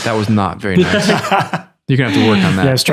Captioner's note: laughter